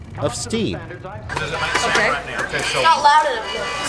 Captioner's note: classroom noise